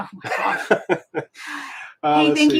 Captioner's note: laughing